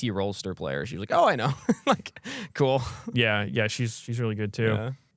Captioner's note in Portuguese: risos